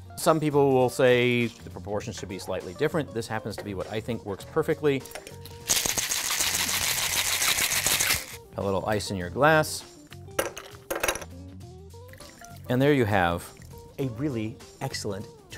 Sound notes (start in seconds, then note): 5.6 liquid and ice rattling in shaker; 12.1 liquid pouring; 12.1 ice clinking